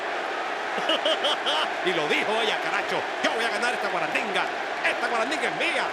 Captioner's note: laugh